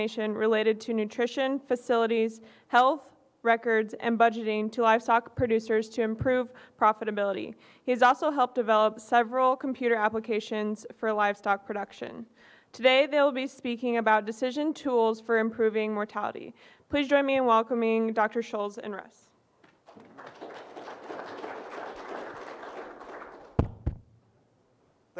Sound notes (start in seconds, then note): 19.8 audience applauds